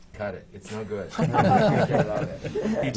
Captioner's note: laughter